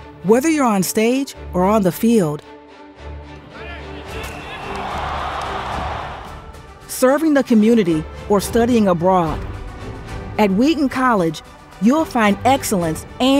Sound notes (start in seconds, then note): 3.5 dramatic music; 3.5 cheering